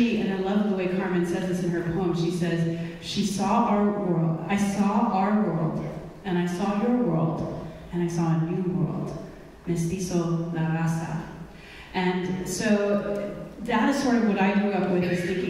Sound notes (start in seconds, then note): 8.8 speaking in foreign language